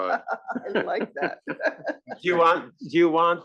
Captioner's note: laugh